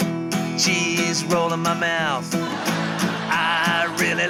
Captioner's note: laughter